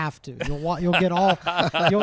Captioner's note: laughs